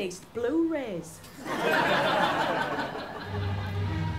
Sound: laughter

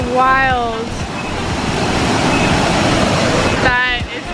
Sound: water splashing

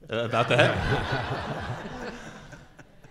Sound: laughing

